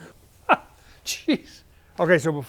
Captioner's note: laughs